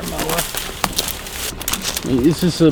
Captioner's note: leaves rustle; dramatic music